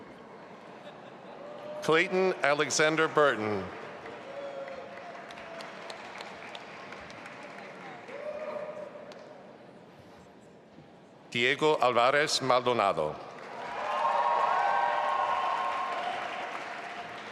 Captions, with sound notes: - Clayton Alexander Burton. (audience applauding) Diego Alvarez Maldonado. (audience applauding)